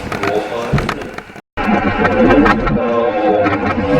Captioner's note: static playback transmitting